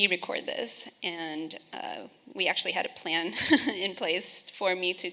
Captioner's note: laughing